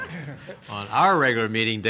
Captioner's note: laughter